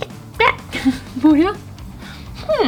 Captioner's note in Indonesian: tertawa